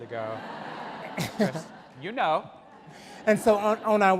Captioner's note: audience laugh